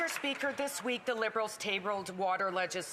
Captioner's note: some Applause